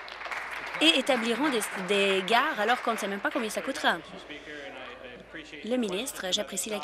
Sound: applause

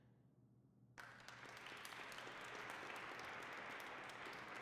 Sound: applause

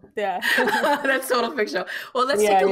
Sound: laughing

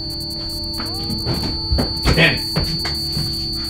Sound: buzzing

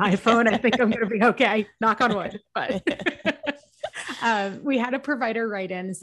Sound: laughs

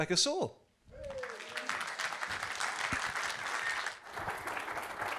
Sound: audience applauding

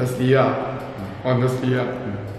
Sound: hums in agreement; hums again in agreement

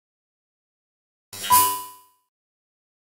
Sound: sound of robot

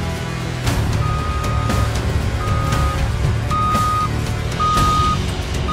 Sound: reverse gear indicator beeping

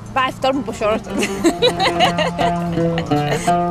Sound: laughs

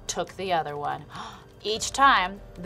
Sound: gasps

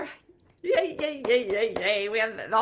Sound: hands clapping

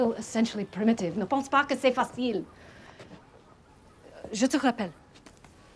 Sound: isabelle speaks french

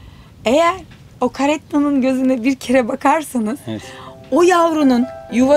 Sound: speaking in foreign language; gentle guitar music

